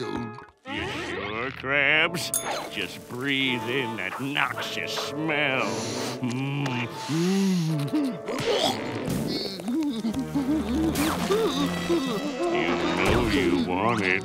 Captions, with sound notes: You sure, Krabs? Just breathe in that noxious smell. [gagging] You know you want it.